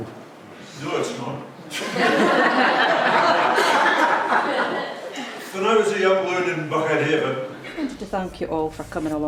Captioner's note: laughter